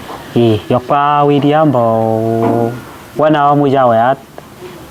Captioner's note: running